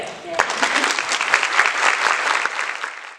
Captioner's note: audience applause